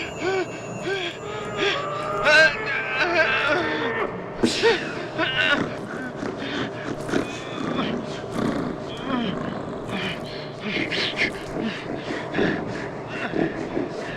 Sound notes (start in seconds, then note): 6.8 Buddy snorting; 9.9 Dave panting